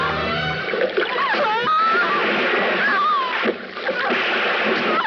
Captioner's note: sound of water - woman gasps and screams; woman screams